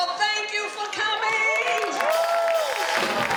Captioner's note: cheers and applause